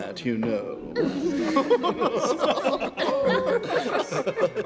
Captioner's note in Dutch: iedereen lacht